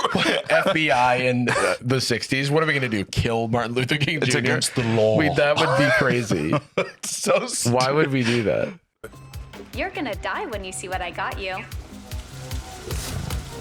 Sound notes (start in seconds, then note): 7.3 laughing